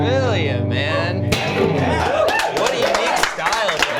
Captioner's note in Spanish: aplausos